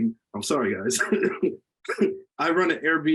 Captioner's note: laughs